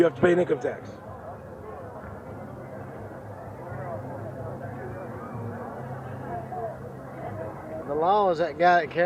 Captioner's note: silence, people chattering in the background